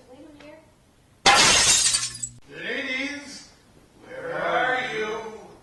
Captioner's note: glass breaks